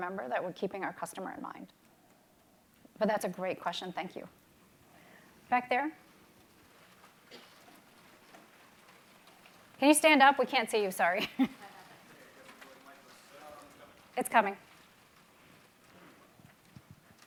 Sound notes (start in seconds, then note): 12.1 murmuring